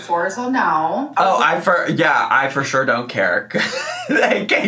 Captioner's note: laughs